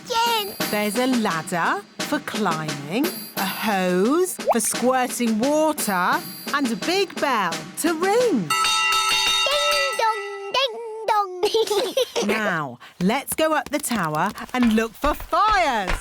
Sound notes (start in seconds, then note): 8.5 bell rings; 11.4 laughter